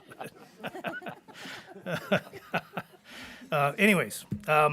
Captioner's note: board members chuckling